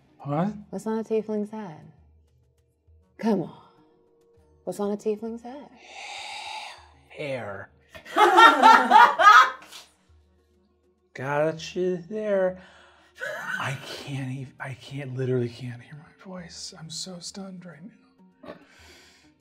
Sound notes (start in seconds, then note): 6.9 slurring; 8.0 laughing; 13.2 slurring